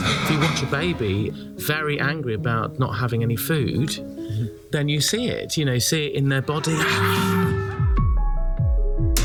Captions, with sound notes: IF YOU WATCH A BABY, VERY ANGRY ABOUT NOT HAVING ANY FOOD, THEN YOU SEE IT, YOU KNOW, SEE IT IN THEIR BODY [SCREAMS]